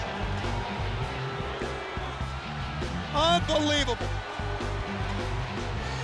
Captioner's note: crowd cheering